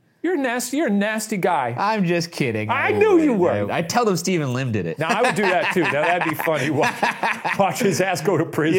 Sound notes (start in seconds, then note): 5.0 laughs